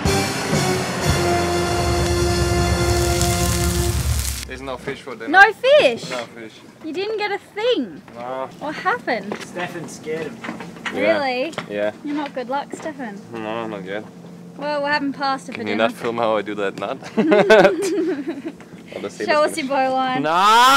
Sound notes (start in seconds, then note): 0.1 dramatic music; 17.0 chuckle